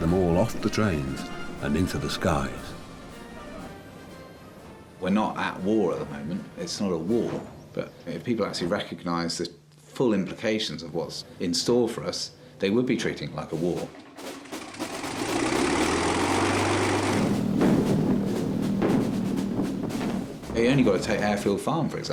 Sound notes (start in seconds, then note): 13.7 upbeat instrumental music; 13.7 engine rumbling; 17.2 explosions booming